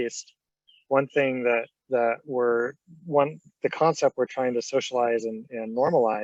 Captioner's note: stammering